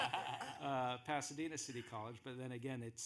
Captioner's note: laughing